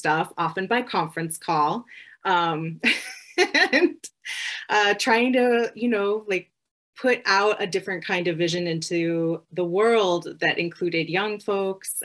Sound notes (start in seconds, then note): 2.8 laughter